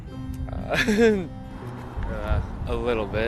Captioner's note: laughing